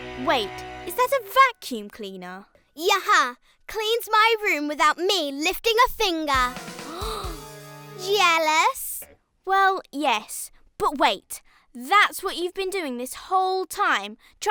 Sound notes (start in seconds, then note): 6.7 Isabella gasps